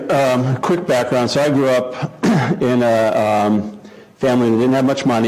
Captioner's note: cough